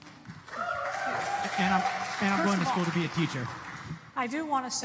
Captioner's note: applause